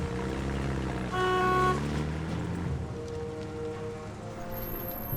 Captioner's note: horn beeping